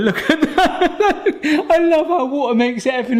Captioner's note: laughing